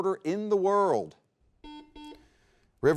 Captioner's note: buzzer beeps